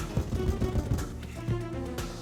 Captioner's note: tense music continues; fist pounding; tense music continues